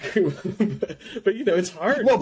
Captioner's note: laughs